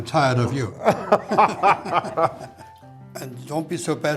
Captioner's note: all laugh